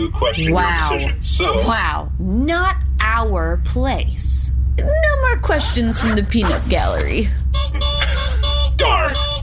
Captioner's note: honks horn